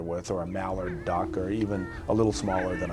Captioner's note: chickens chirping